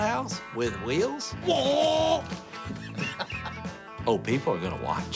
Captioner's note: laughs; imitating engine